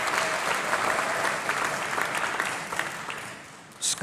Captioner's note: applause